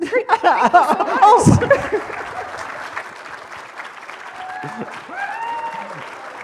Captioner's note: applause